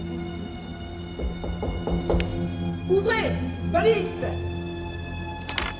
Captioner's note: banging